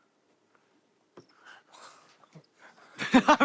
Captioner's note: breathe